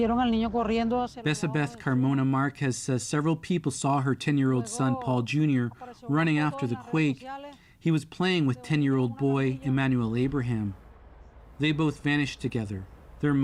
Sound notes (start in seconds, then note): 0.9 speaking alternate language